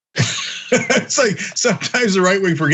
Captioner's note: laugh